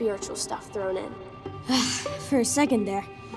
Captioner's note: sighing